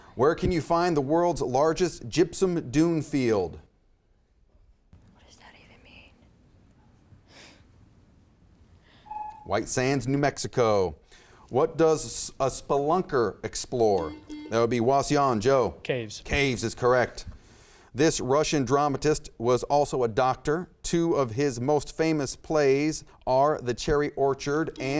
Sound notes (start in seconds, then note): 9.2 timer buzzes; 14.0 buzzer beeps